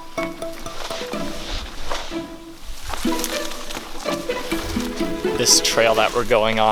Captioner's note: leaves and branches rustling